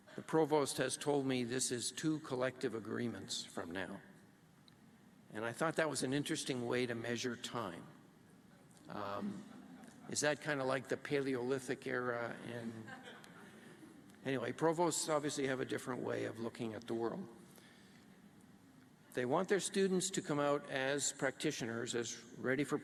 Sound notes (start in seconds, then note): 9.2 laughter